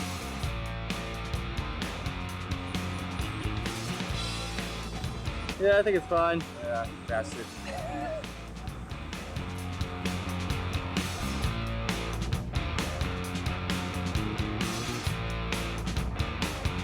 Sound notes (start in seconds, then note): 7.9 laughs; 7.9 rock music